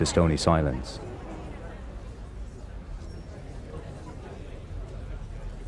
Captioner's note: people chattering